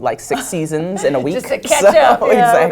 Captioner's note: laugh